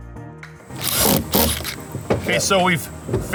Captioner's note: drill machine drilling